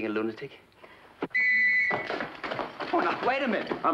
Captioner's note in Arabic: صافرة صاخبة